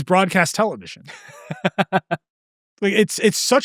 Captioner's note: laughs